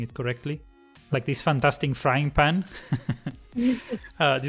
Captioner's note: laughs